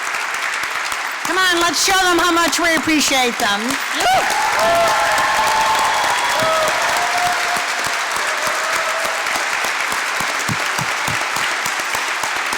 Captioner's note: applause; applause